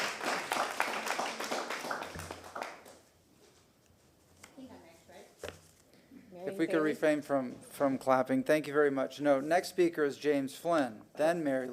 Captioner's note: applause